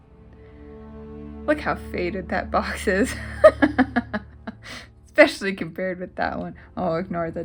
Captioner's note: laugh